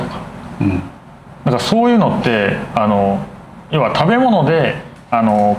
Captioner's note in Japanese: 咳払い